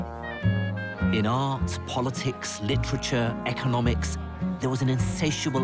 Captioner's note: voiceover